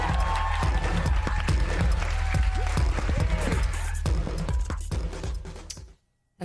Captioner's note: applause